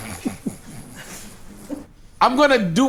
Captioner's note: group chuckles